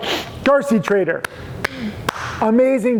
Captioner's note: clapping